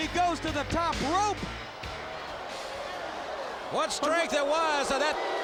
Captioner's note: crowd chatter